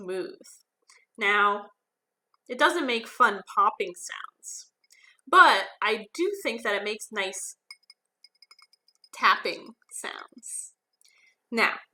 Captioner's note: fingers tapping